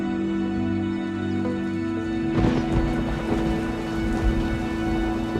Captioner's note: thunder rumbling